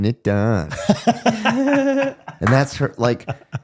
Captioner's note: laughing